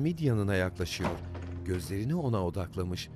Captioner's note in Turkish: Kapı kapanma sesi